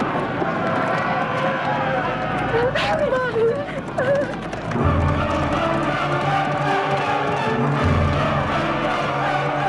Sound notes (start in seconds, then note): 0.2 raiders shouting; 4.0 whimpers; 4.6 dramatic orchestral music